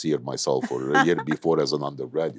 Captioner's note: laughs